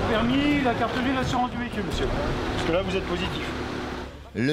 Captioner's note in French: audio parlé en français